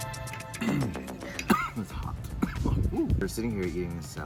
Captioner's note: coughs